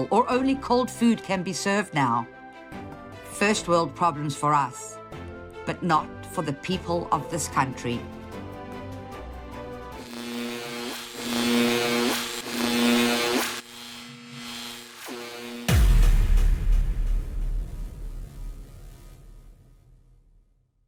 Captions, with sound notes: or only cold food can be served now. First world problems for us, but not for the people of this country. (light bulb buzzing and sizzling) (dramatic music)